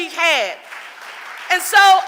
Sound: audience applauding

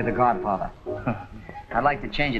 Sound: chuckles

